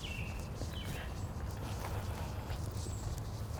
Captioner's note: birds calling